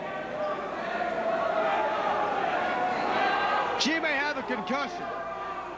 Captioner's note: crowd chatter